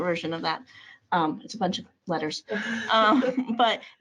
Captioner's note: chuckles